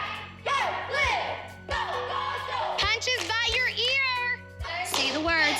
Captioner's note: all chanting